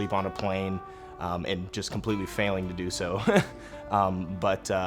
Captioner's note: chuckles